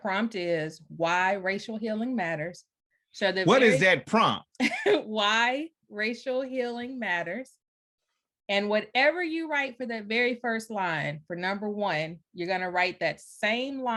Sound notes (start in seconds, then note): 4.6 chuckles